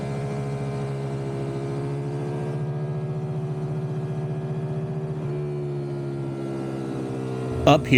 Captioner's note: engine roaring